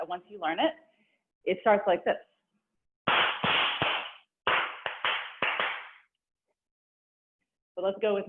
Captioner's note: applause